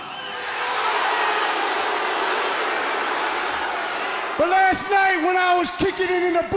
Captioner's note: crowd chatter